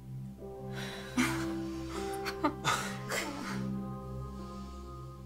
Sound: nervous laughing

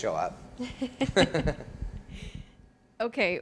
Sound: laughter

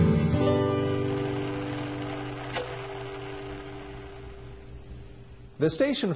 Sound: TV static

